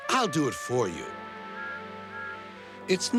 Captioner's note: toot toot